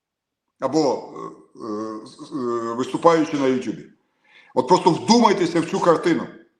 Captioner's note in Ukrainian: прочищення горла